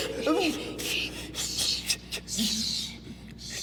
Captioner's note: continues whimpering